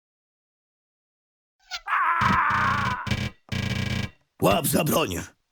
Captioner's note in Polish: strzał z kuszy i odgłos śmierci skrytobójcy